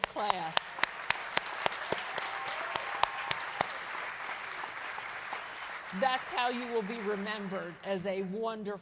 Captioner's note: applause